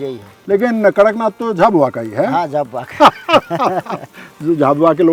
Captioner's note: laughs